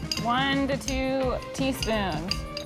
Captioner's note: spoon clinking